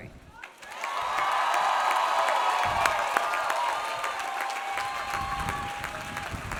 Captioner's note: audience applauds; audience cheers